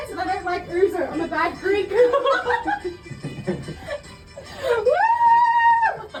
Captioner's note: laughs